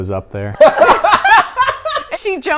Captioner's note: everyone laughs